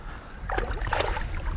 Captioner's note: splash